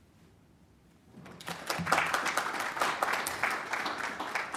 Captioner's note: applause